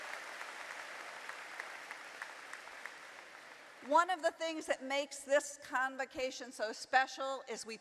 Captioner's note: applause